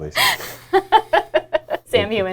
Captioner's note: laughing